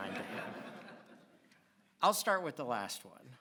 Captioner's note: audience laughs